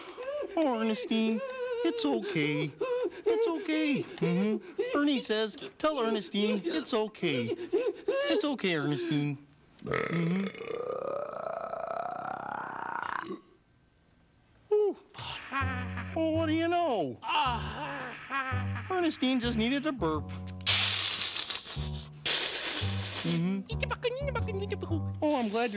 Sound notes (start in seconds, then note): 9.8 burping; 21.0 giggling